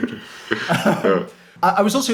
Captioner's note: chuckles